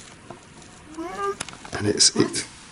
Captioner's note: disembodied Voice